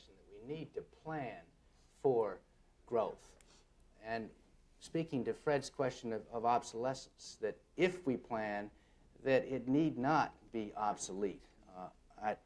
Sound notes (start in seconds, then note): none